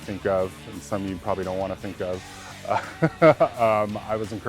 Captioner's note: laughs